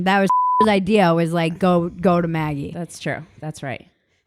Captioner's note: beep